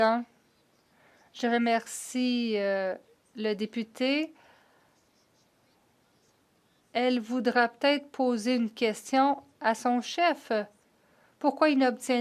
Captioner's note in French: voix de l'interprète